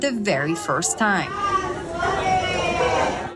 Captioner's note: cheering